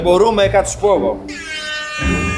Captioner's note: airhorn sound